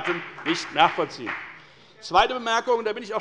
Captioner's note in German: Beifall bei der FDP